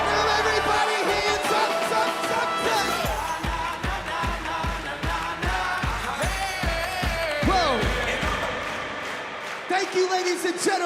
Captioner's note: cheers and applause